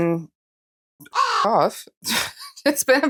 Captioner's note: caw